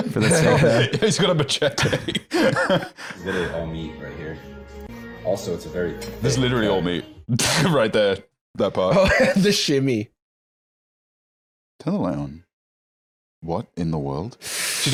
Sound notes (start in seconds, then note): 0.0 laughing; 9.0 laughs